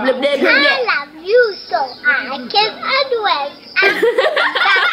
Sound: baby babbling; laughing

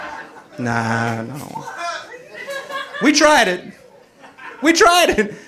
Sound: audience laughing

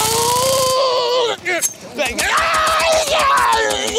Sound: yelling

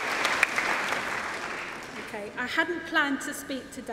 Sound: applause

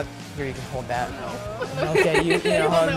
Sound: laughs

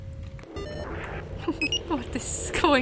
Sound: chuckles

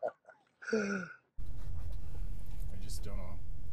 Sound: both laugh; engine hums

